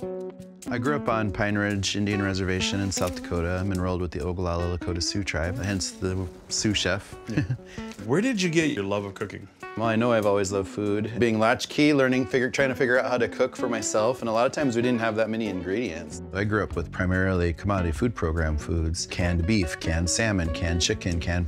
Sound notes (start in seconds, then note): 0.0 upbeat music; 7.2 chuckles